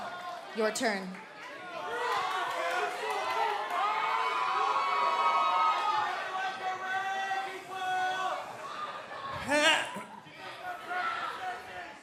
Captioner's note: crowd cheering